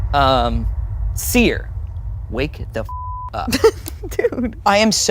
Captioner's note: beep